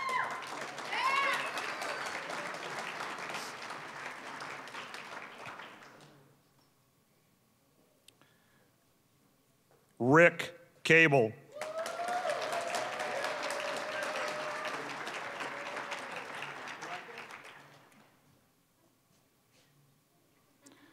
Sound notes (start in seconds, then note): 0.0 applause, cheering; 2.7 applause; 11.5 applause, cheering; 15.4 applause